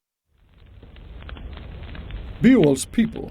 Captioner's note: fire crackling